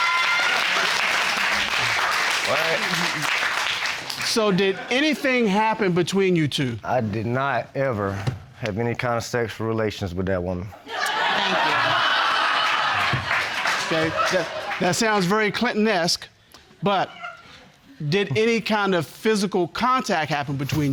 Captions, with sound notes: So, did anything happen between you two? I did not ever have any kind of sexual relations with that woman. (AUDIENCE LAUGHING) Thank you. Okay, that sounds very Clintonesque. But... did any kind of physical contact